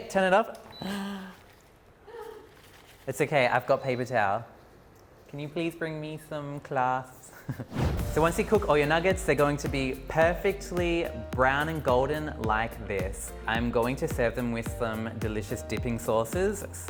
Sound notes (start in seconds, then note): 0.8 sighing in background; 0.8 sighs loudly; 7.3 chuckles lightly